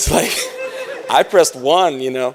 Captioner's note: laughter